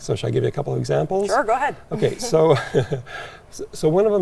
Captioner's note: chuckles